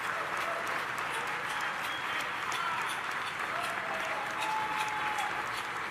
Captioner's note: audience applauding